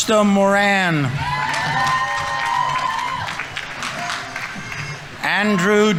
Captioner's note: audience members cheering; audience applauding